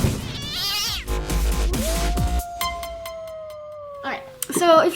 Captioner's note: dog howls; cat yowls